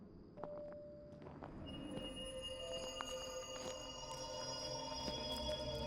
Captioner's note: eerie music plays; footsteps approaching